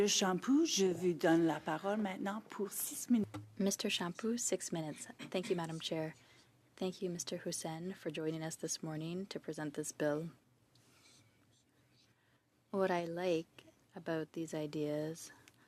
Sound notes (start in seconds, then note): 5.0 speaking French